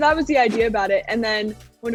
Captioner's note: scene whooshing